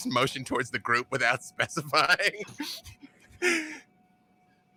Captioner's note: laughs